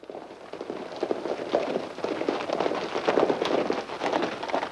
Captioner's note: horses galloping